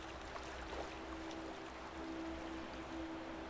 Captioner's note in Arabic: ماء يتدفق